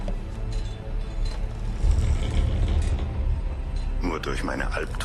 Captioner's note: galley creaking